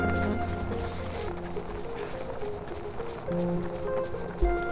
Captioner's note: sniffing softly